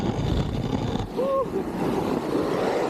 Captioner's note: sound of riding